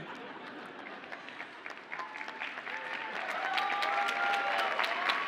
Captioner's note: audience cheers and applauds